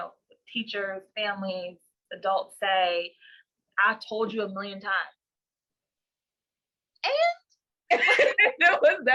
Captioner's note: laughter